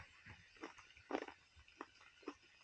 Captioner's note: chewing